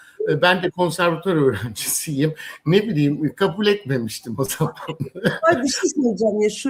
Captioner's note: kahkaha